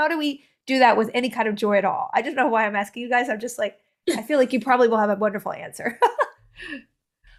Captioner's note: laughter